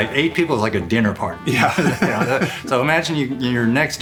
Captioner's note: laughs